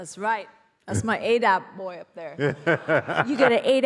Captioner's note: laughs